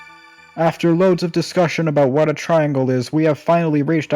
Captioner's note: ding; pseudo-dramatic voice